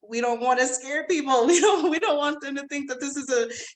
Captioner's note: laughs